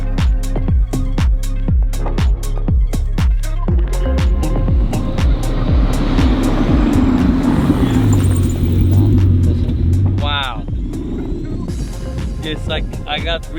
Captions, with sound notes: (engine humming) Wow. It's like I got rebirthed.